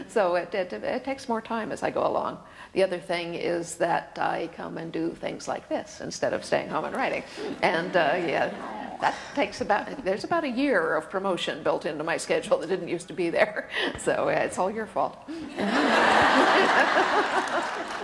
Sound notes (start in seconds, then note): 7.4 laughter; 15.6 audience laughter